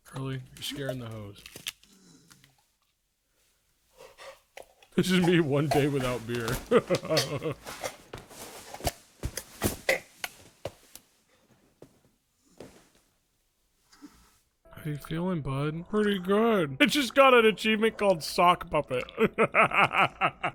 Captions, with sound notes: Curly, you're scaring the hoes. "This is me one day without beer." (laughs) (fabric rustling) How you feeling, bud? "Pretty good!" It just got an achievement called Sock Puppet. (laughs)